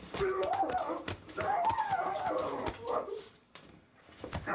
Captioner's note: screaming